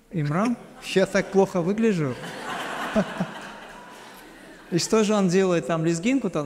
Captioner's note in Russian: смех